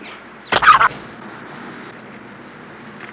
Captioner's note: bird squawk